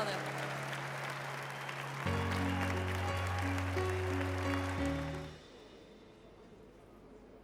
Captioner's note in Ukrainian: оплески